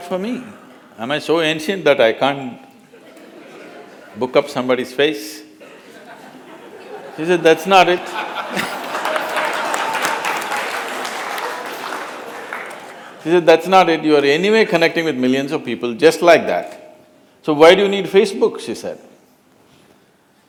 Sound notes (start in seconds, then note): 7.8 laughter; 7.8 laughter/ Applause